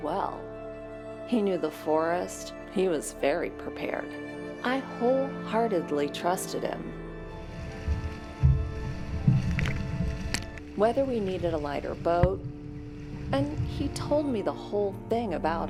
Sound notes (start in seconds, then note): 7.4 water splashing